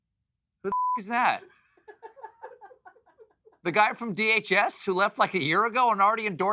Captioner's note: laughter